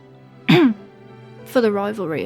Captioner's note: coughs